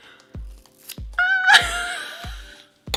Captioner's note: hair snipping; squeal; wheeze